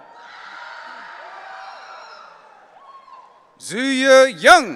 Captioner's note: audience cheering